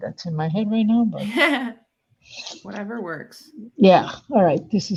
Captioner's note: laughs